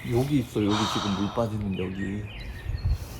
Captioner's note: sigh